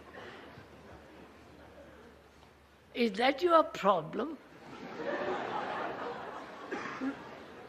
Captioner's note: laughs; laughter